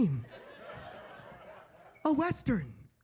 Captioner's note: audience laughing